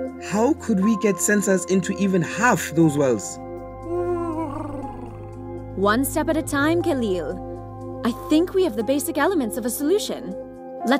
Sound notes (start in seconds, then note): 3.9 Huti hoots